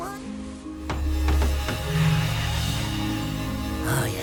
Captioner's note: knocks on the box, watches as magic thrums and it glows with power